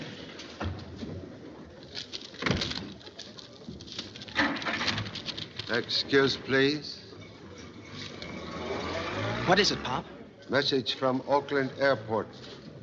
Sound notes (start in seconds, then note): 1.7 car Door Closes, Engine Starts